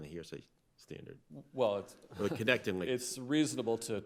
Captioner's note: chuckles